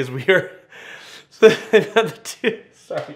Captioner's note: laughs